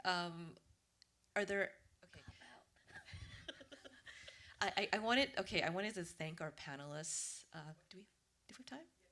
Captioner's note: laughter